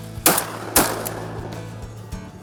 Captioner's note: gunshots